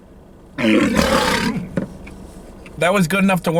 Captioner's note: tiger growling